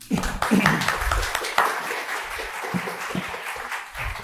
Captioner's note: applause